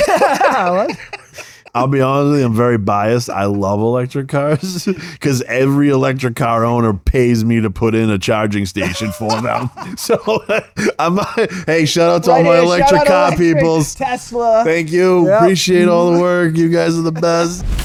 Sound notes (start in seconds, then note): 4.4 laughing